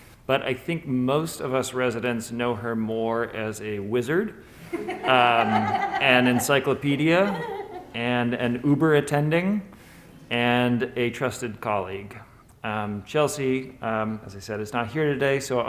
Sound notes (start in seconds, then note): 4.6 laughter